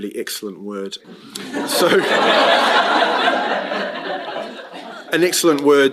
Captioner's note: laughter